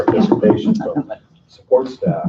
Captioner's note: laughing